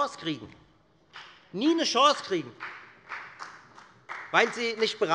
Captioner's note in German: Beifall bei der FDP